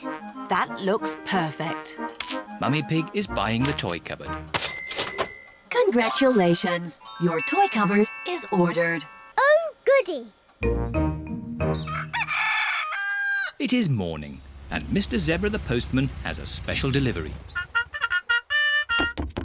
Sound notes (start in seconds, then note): 11.8 cockerel crows